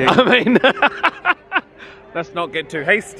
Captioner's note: laughing